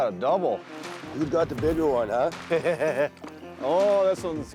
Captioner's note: laughing